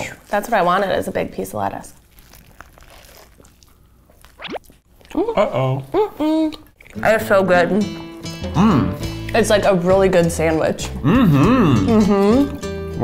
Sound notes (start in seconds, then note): 2.8 lettuce crunching